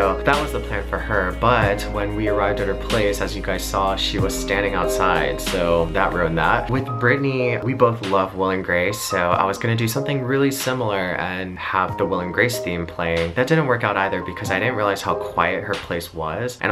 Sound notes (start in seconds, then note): none